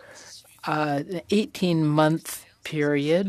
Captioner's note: speaking French